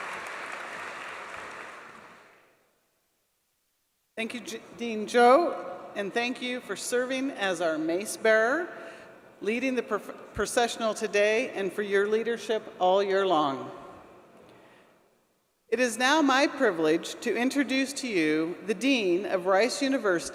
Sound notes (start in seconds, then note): 5.8 applause